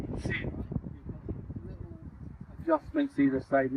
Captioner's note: extreme wind noise